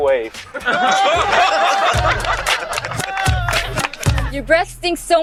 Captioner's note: crowd laughs